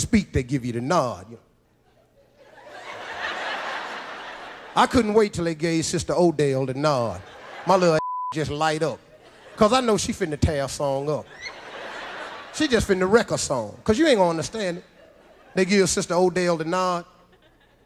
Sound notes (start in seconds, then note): 1.8 audience laughs; 7.0 audience laughs; 7.9 beep; 10.9 audience laughs